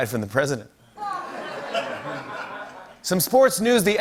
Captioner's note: laughter